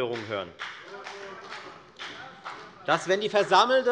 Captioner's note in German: Beifall bei der FDP